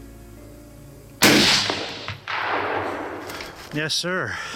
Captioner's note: gun shot